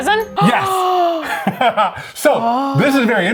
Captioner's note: exclaims; laughs